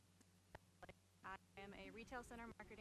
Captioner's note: stuttering audio